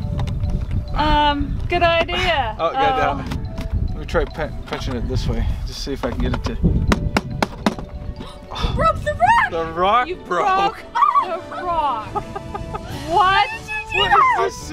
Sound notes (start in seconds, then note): 6.0 rocks tapping; 12.0 dad laughing